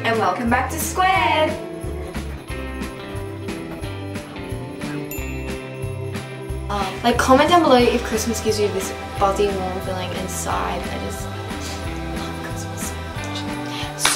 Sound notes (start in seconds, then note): 4.4 bell dings